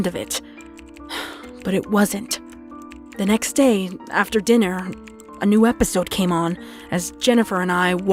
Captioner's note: sigh